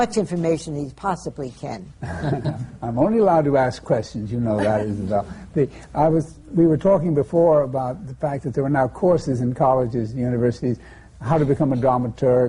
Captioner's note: laughter